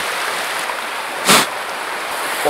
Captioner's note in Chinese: 吹氣！